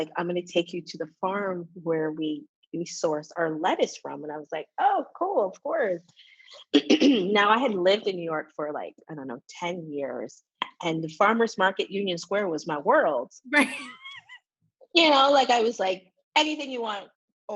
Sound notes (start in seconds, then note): 6.8 coughs; 13.6 laughs